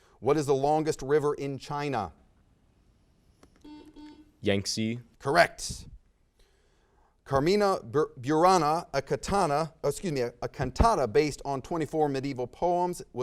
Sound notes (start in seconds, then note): 3.6 buzzer sounds